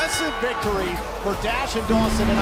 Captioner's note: bell ringing